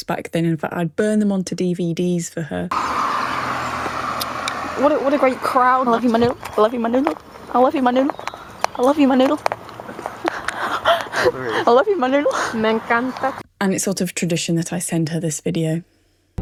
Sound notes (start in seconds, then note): 2.4 tires screeching; 9.8 laughing